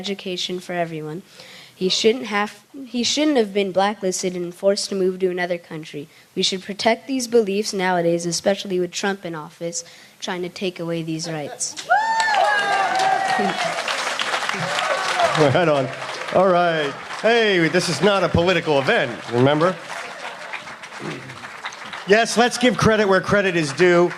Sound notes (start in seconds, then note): 17.4 applause